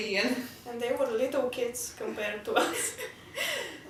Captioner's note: laugh